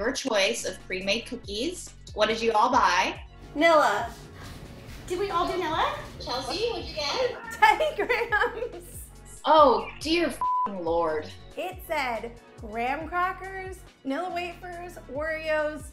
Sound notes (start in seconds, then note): 6.0 laughing; 10.3 beep